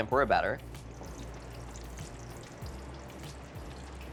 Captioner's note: oil burbling